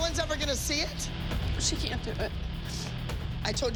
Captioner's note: sniffles